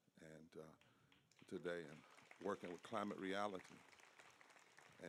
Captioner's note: applause